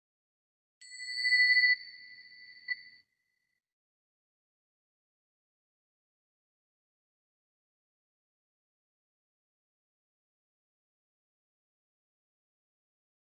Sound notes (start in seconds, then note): 0.8 bells ringing